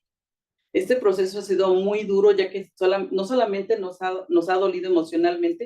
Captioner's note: speaking Spanish